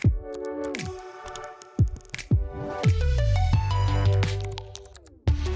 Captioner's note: upbeat music; keys clicking on keyboard